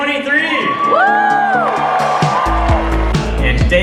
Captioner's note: upbeat music; audience cheering